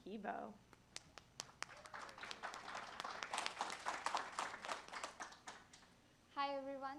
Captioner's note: applause